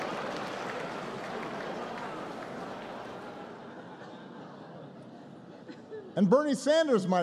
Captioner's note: laughter